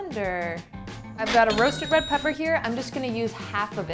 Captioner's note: cash register chimes